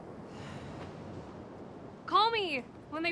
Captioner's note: Fern sighs